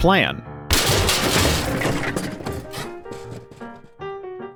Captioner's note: crash